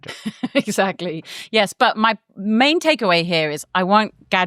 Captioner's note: laughs